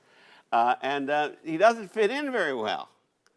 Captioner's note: none